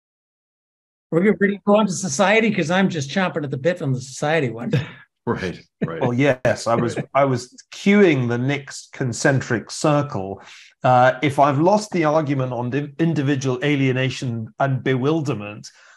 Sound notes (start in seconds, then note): 5.8 laugh